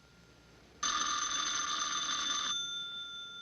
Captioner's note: phone ringing